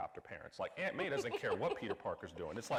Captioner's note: laughing